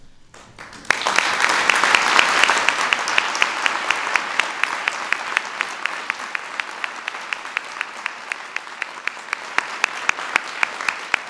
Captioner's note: applause